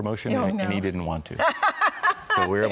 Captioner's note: laughs